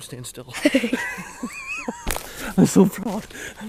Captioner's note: laughter